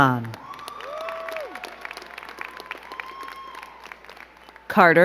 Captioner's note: crowd cheering and clapping